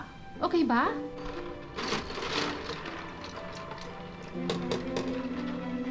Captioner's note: mellow music; ice clattering; upbeat music